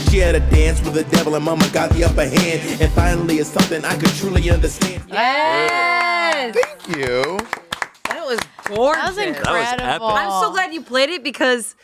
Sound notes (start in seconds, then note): 7.6 everyone applauds